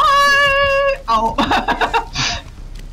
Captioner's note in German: lacht